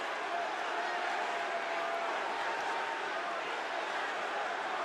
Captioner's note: audience chanting